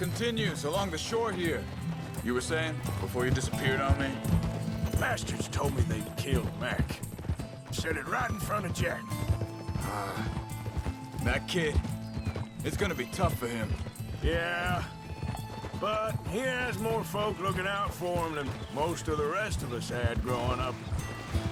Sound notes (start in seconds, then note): 9.8 sighs